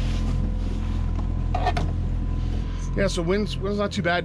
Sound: boat engine idling

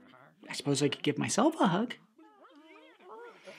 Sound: critters mumbling; critters mumbling; deep inhale

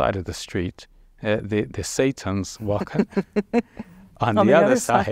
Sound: laughing

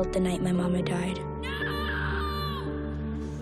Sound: shrieking

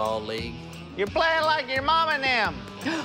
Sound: gasps

